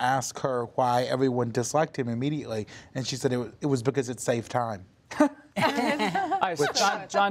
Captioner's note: laughter